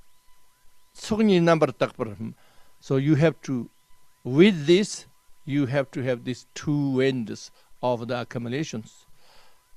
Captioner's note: tibetan